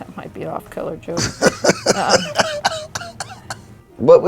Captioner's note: laughing